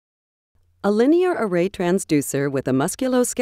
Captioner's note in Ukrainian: Голос за кадром